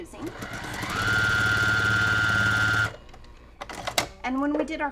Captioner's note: sewing machine humming